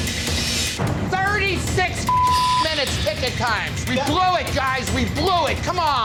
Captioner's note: beep